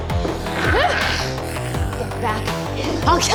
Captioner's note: uptempo rock music; creatures snarling